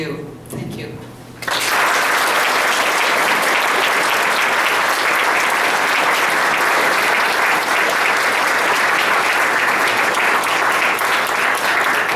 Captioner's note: applause